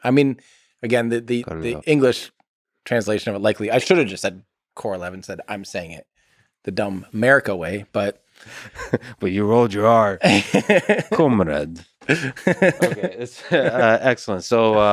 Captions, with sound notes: I mean, again, the English translation of, but likely I should have just said Korolev, instead I'm saying it the dumb America way but- (laughs) - But you rolled your heart. (laughs) Korolev. (laughs) Okay, it's excellent.